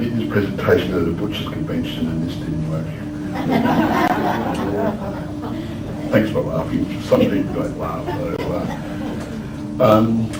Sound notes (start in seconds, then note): 3.2 laughter